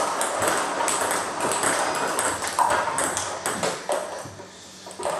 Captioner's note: ball ping pong hitting continues